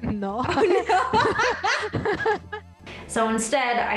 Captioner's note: both laughing